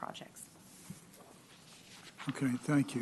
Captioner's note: rustling of papers